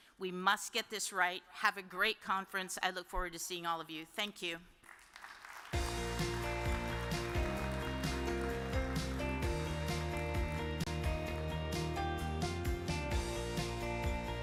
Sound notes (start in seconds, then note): 4.9 audience applause; 5.7 uplifting music